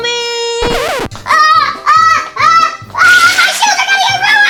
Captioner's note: girl shouts